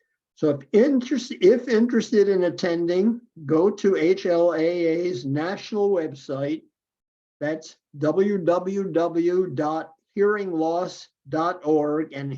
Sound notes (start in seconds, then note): none